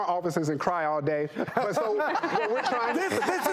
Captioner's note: laughing